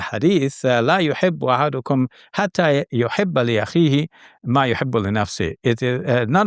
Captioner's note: speaking in foreign language